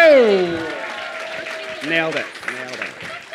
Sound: applause

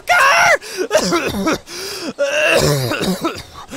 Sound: coughing in pain

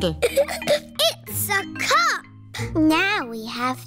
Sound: giggles

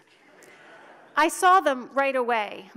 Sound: audience laughs

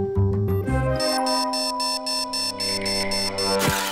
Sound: alarm buzzing

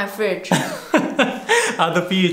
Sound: laughter

